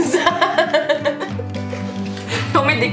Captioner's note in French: rires